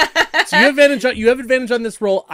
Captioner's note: laughter